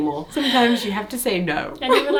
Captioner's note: laughs